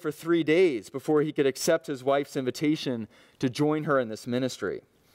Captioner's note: none